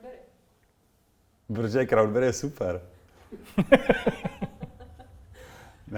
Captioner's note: laughter